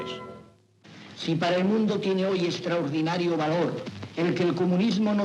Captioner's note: speaking Spanish